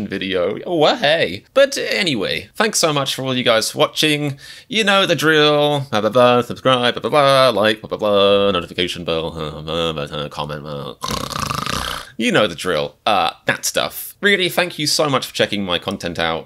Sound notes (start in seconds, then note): 11.0 snoring sound effect